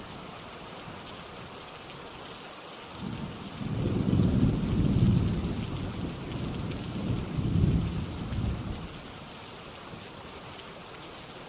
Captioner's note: rain falling